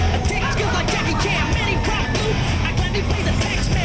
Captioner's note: laughing